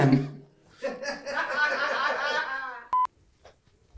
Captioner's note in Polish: śmiech całej ekipy